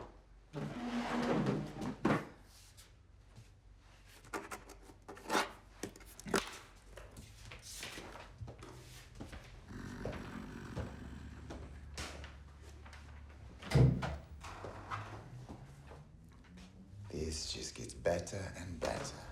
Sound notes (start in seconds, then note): 9.3 growls; 13.5 door creaks